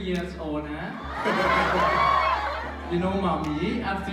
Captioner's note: crowd cheers